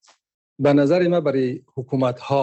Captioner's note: speaking dari